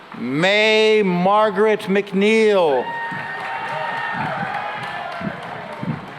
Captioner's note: cheering and applause